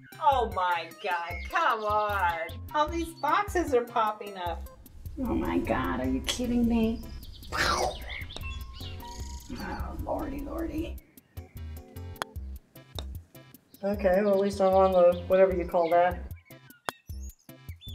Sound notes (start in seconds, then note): 7.7 makes rocket sound; 12.1 ball clacks